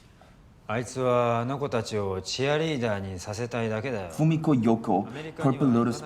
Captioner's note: speaking in foreign language